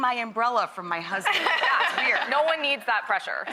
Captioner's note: laughing